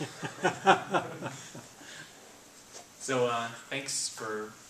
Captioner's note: laughing